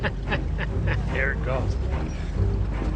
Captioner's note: laughs